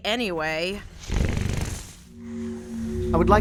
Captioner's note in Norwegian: Knurrer